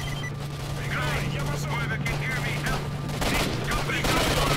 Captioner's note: radio